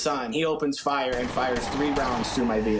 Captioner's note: gun blasting